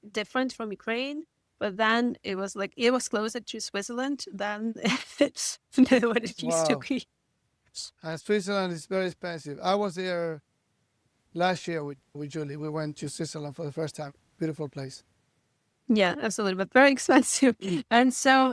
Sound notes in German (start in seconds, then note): 6.1 lacht